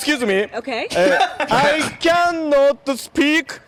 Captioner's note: both laugh